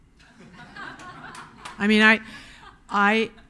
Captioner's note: audience laughing